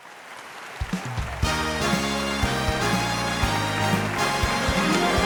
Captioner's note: audience applauding